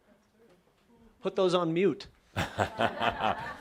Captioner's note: laughter